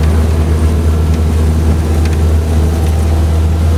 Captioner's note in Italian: Suono motore della AR59